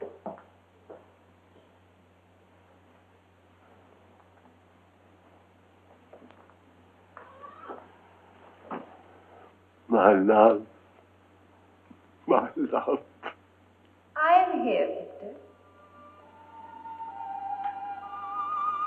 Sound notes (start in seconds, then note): 12.1 sobbing; 16.8 gentle music